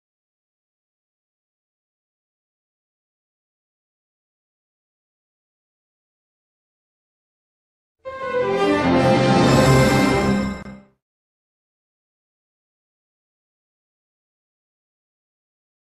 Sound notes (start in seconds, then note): 8.0 orchestral music playing; 11.9 silence